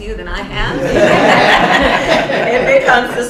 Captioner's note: laughter